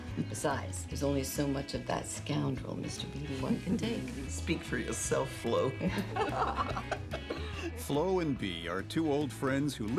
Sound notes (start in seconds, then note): 5.7 friends laughing